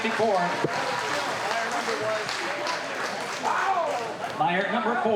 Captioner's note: applause